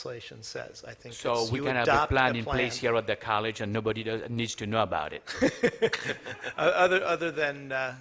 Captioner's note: laughter